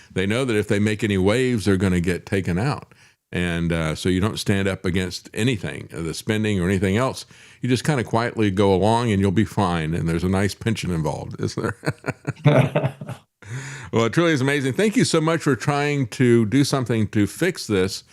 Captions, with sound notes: They know that if they make any waves, they're gonna get taken out. And so you don't stand up against anything, the spending or anything else. You just kind of quietly go along and you'll be fine and there's a nice pension involved, is there? (Laughing) Well, it truly is amazing. Thank you so much for trying to do something to fix this.